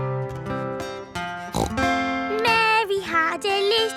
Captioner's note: playing guitar; snorts